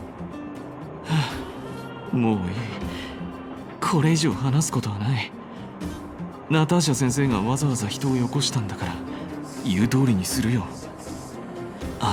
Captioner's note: sigh